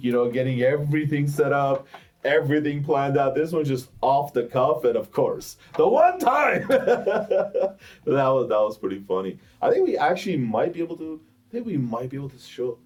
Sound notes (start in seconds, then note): 6.4 laughs